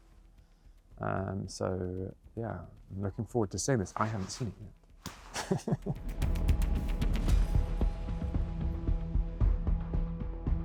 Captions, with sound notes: So yeah, I'm looking forward to seeing this. I haven’t seen it [Laughing].